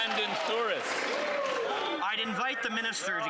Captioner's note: some Applause